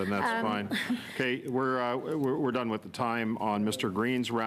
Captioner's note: laughter